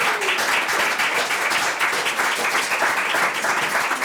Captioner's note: members clapping